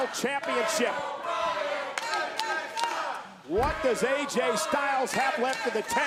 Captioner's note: applause